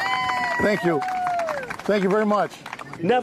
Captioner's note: applause